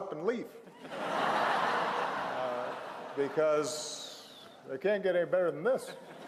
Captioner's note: laughter